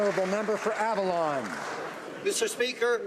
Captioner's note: some Applause